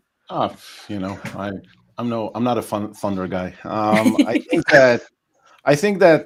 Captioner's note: laughs